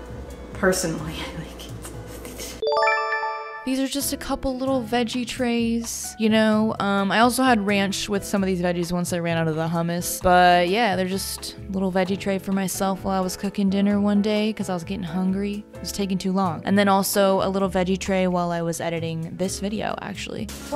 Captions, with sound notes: Personally, I like it. *chime* These are just a couple little veggie trays you know um, I also had ranch with some of these veggies once I ran out of the hummus, but yeah they're just a little veggie tray for myself while I was cooking dinner one day because I was getting hungry. It was taking too long, and then also a little veggie tray while I was editing this video actually.